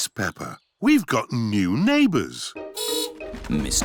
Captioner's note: horn beeps